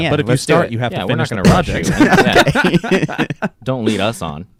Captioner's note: laughing